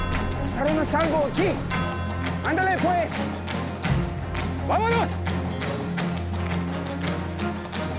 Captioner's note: speaking spanish